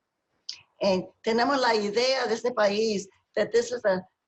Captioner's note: speaking spanish